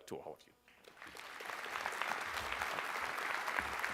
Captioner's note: applause